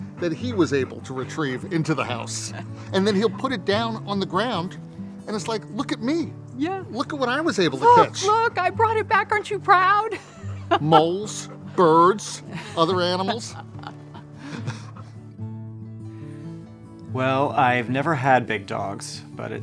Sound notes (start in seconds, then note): 9.3 laughs; 14.1 soft warm music